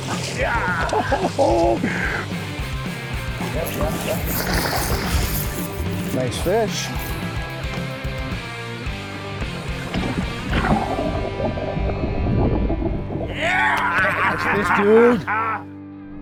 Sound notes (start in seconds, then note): 0.0 laughs; 2.2 upbeat music continues; 3.5 rod snapping